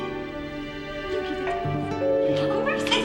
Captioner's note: doorbell ringing